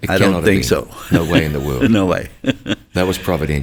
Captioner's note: chuckles